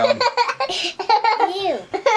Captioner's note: teasing laughter